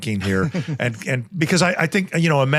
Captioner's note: chuckles